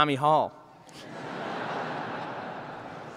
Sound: laughter

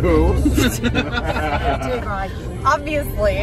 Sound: chuckling; laughter

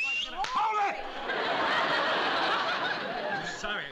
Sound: whistles

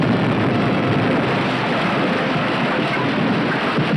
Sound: explosion booming

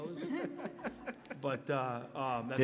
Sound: all laughing

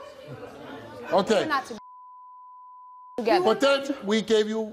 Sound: beep

